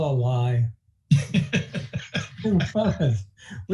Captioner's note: laughing